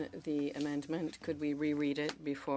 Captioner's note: speaking French